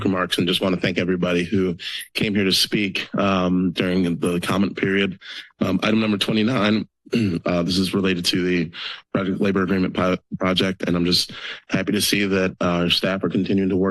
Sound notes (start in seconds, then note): 7.1 clears throat